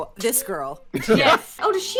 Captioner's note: laughter